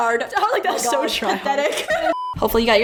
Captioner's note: laughs